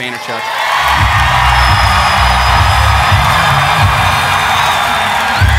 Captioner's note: audience cheering